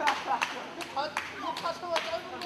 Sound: laughs

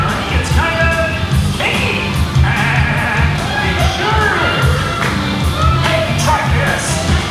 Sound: laughs

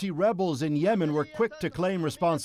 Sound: speaking foreign language

